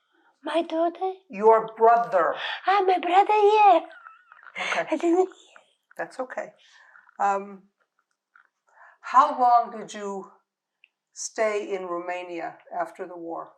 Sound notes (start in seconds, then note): 3.2 laughing